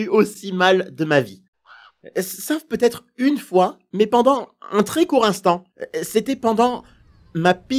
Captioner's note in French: Cri de corbeau